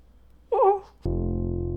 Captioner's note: whimpers